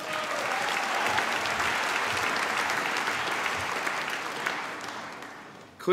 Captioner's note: applause